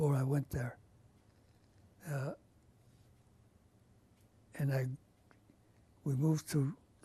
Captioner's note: pauses for 3 seconds